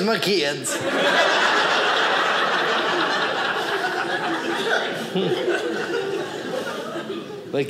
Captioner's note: audience laughing